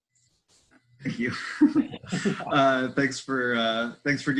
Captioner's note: laughs